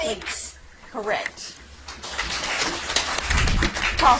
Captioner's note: audience applauds